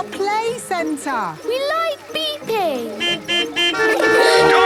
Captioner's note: horns beeping